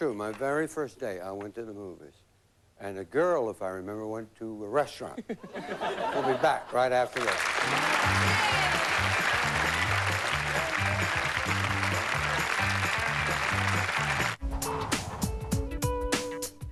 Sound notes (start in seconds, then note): 7.1 applause; 9.9 theme music playing